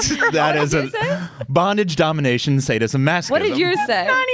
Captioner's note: laughter